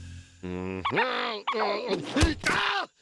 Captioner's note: grunting